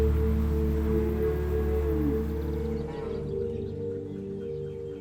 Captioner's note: cows call